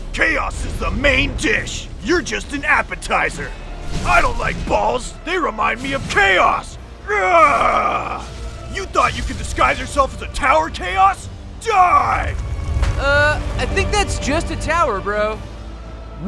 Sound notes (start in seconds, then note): 6.9 growling